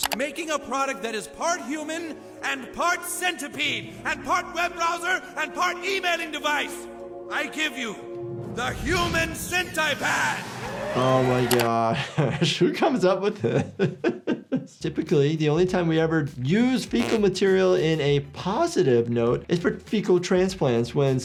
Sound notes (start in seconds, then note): 9.7 crowd cheers; 13.3 laughing